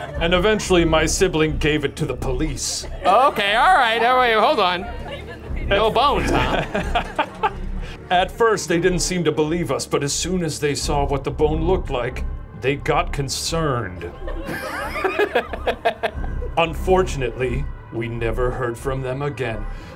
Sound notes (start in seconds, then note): 5.8 laughing; 14.1 laughing